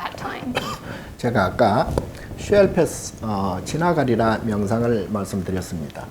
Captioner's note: speaking Korean